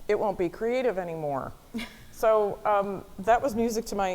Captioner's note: chuckling